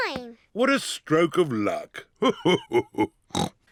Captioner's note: laughs; snorts